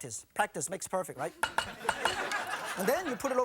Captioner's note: audience laughing